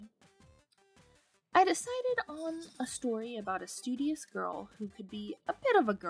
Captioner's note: cat bell jingle